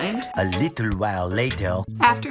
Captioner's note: male french-accented narrator voice